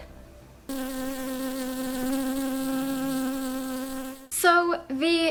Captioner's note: bee Buzzing Sound